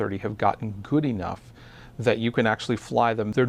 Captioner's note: none